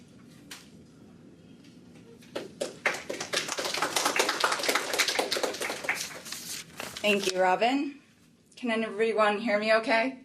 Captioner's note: applause